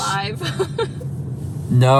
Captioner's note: laughs